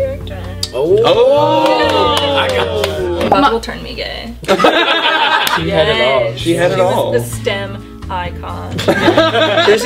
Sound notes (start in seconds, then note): 0.7 many "ooooh"s; 4.4 all laugh; 8.8 laughter